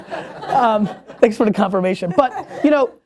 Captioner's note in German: Lachen